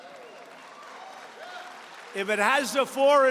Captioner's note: applause